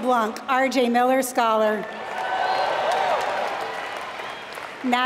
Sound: applause

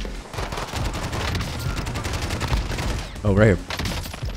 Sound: gunshots

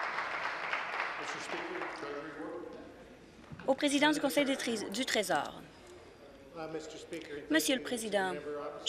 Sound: some Applause

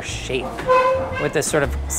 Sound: chair scrapes

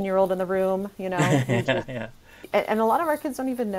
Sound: laughing

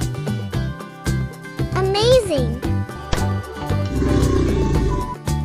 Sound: alligator sound

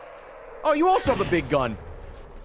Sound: none

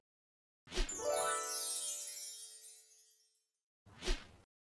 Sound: stars shimmering

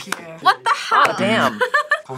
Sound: laughs

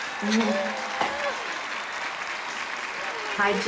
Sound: cheers and applause

